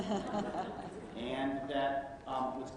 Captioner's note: laughter